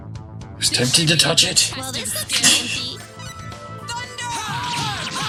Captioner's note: laughs softly